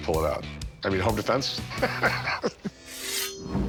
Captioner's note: laughs